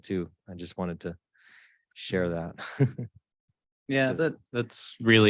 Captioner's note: chuckles